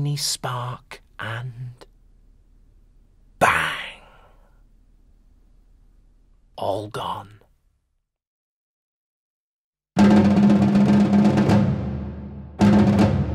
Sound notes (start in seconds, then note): 2.2 whispers